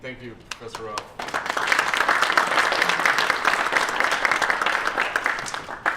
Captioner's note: applause